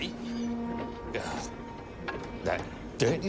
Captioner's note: groans